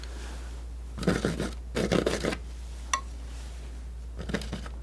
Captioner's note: scratching